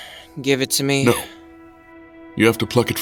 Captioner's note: sighing